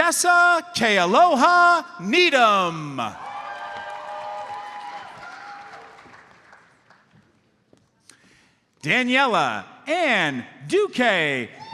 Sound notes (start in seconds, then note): 3.1 audience cheers and applauds